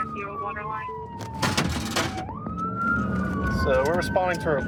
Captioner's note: sirens blaring